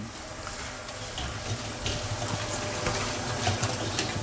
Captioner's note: sound of the kneading machine